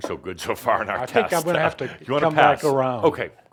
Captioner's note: Adamus laughs